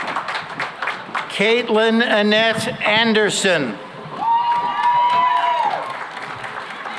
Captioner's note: cheering and applause